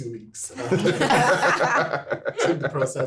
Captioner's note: everyone laughing